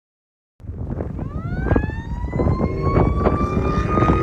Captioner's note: sirens blaring; wind howling